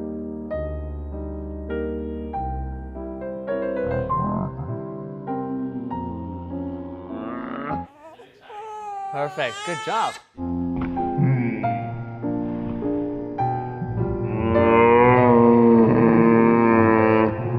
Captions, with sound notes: (baby crying) Perfect. Good job. (piano music) (slow-motion crying)